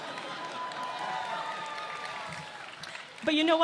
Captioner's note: laughter